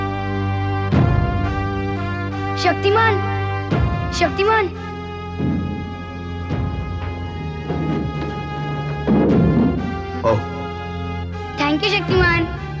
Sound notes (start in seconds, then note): 7.5 thud